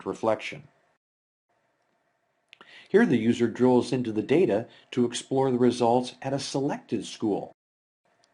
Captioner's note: click